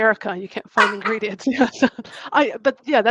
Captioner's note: laugh